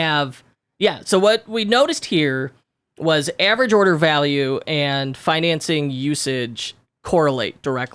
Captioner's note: none